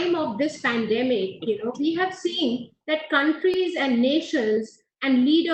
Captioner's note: audio disturbance